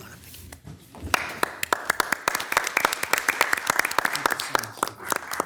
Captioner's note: everybody clapping